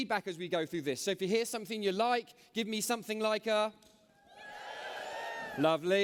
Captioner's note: cheers